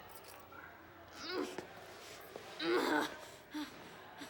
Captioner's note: groaning